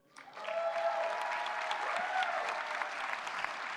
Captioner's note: applause